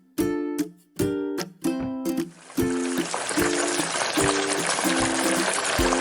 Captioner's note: sizzling sound